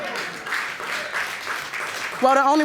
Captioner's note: audience applauding